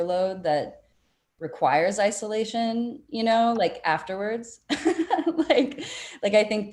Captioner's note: laughing